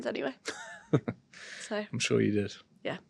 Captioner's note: chuckles